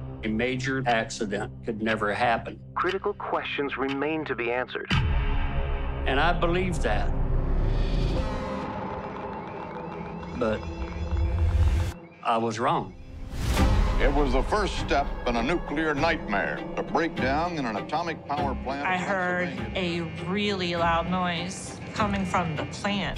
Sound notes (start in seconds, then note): 8.2 alarms blaring